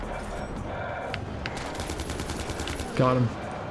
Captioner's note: gun fires